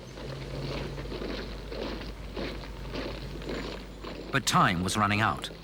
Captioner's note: boots thudding